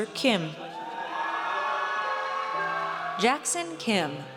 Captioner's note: audience cheers